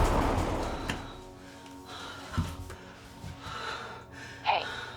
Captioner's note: Hope panting